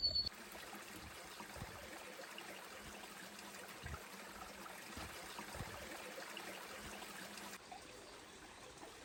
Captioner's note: trickling water